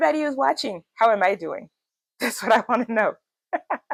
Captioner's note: laughs